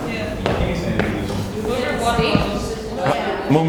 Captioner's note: crowd talks over each other